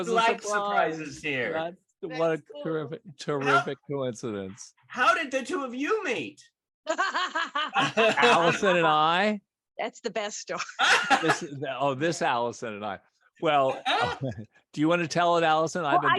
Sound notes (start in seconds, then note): 6.8 laughter